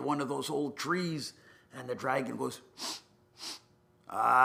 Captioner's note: sniffs